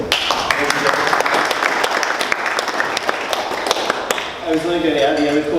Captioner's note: audience applauding